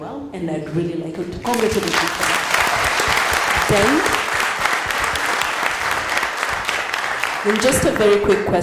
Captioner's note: applause